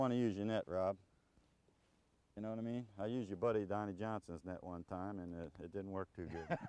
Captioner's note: laughter